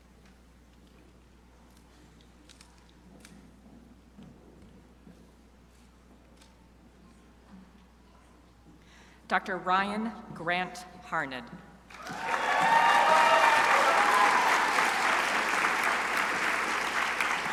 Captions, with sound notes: Dr. Ryan Grant Harned. (crowd applauding)